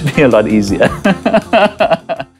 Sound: laughing

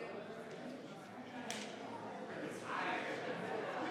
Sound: members chattering

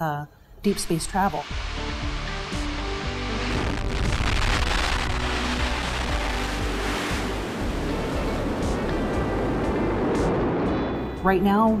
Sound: sounds of space engine

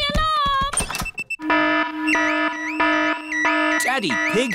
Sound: alarm blaring

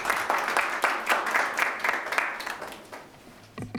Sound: clapping

